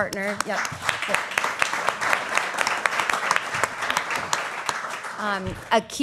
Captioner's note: applause